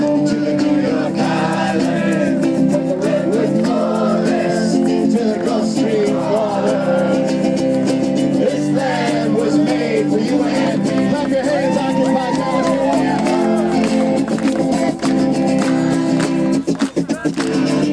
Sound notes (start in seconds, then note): 11.0 voiceover; 12.9 clapping